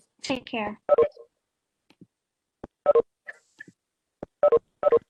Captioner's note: computers beeping